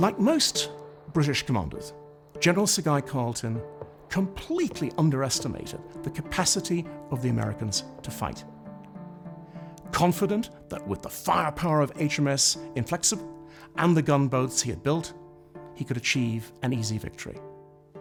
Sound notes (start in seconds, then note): none